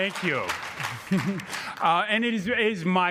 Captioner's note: laughing